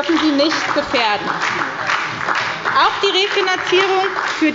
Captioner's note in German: Beifall bei der SPD